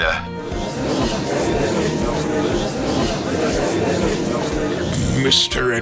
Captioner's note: gallery chattering